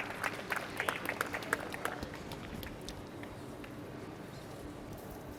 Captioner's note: applause